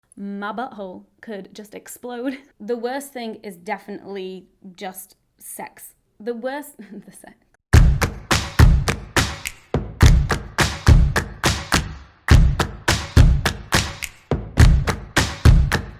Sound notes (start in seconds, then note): 6.8 chuckles; 7.7 upbeat music